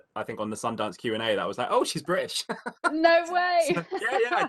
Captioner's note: laughs